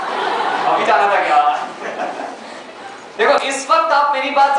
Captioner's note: laughs